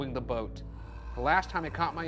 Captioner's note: growling sound effect plays